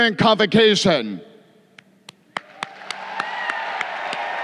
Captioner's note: crowd cheering